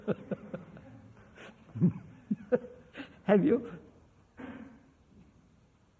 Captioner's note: laughs